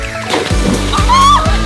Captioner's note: man splashes in pool; girl screams